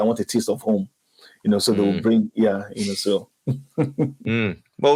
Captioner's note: laughs